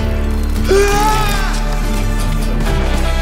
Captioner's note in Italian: urlo